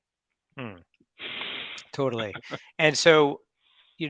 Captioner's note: laughs